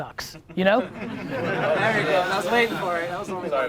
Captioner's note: crowd laughs